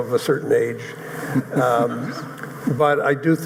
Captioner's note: audience chuckling